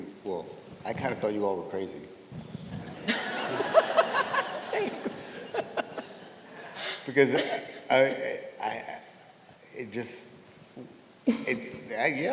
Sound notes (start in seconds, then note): 2.9 audience laughs; 3.0 laughing